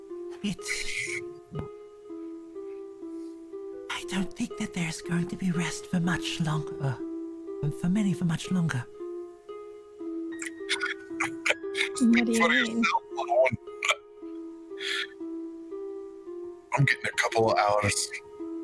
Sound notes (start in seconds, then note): 10.4 chuckles